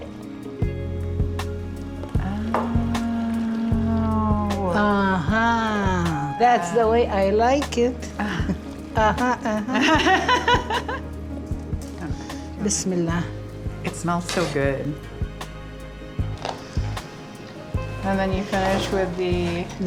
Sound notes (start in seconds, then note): 0.1 light music; 8.9 laughs; 12.6 speaks in Arabic